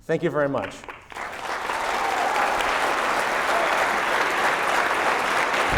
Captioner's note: cheering, sustained applause